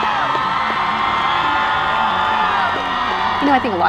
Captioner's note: cheering